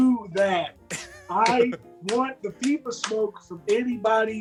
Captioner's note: laugh